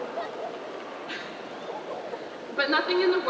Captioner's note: laughs